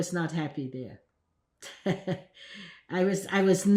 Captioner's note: laughing